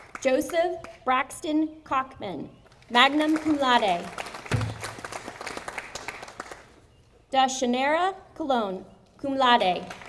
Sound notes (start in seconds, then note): 0.0 audience applauding; 4.0 audience applauding